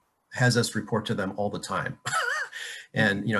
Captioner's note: laughing